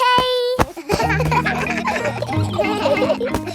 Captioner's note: kids laughing